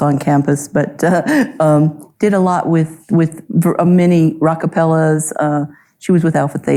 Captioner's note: chuckles